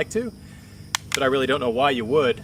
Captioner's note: safe clicks